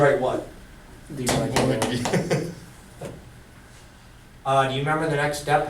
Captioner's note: voiceover; chuckles